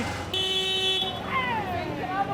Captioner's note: horn honking